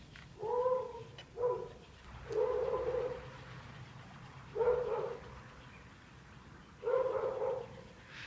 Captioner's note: dog barking